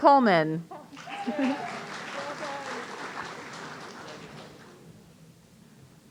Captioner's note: audience applauding